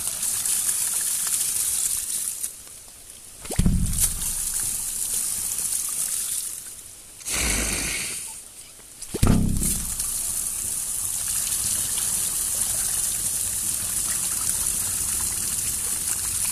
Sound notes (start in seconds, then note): 5.5 more fart noise